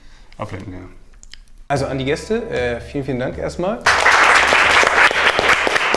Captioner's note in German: alle klatschen